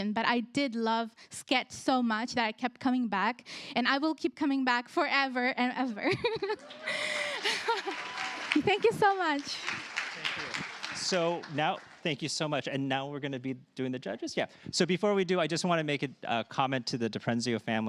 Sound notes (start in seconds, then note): 6.0 chuckles